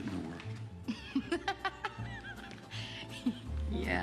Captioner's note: laughs